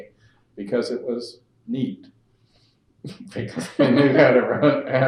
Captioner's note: laughter